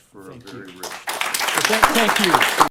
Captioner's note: applause